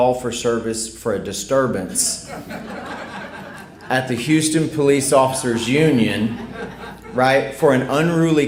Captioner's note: laughter